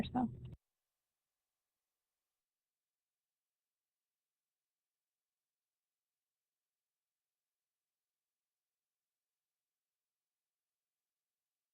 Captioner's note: silence